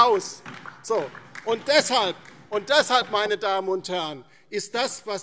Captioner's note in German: Beifall DIE LINKE und SPD